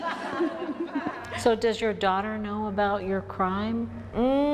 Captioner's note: laughter